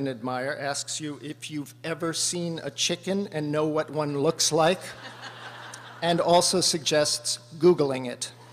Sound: laughter

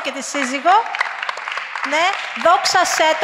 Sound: applause

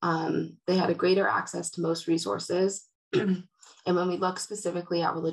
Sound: clears throat

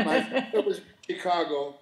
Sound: laughing

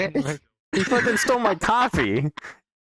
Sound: more maniacle laughing; laughing

